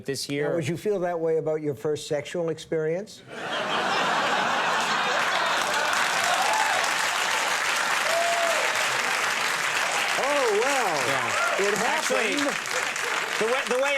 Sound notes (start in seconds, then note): 3.3 audience laughing; 3.6 audience clapping